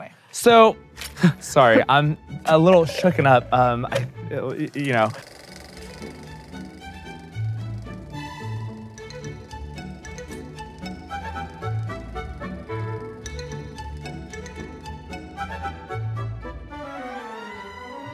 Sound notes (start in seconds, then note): 5.9 film winding; 5.9 gentle music